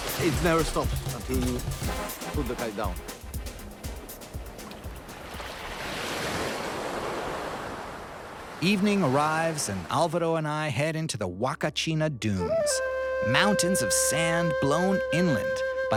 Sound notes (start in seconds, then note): 5.1 water lapping